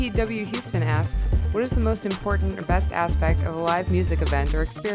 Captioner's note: voiceover